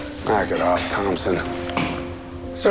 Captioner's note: groans